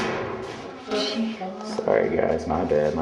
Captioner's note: clanging